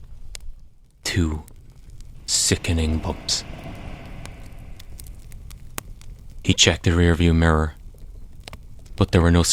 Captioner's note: dreamlike sound of car hitting bumps